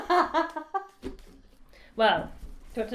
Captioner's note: laughs